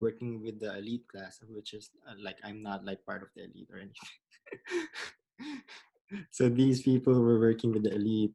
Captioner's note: laughs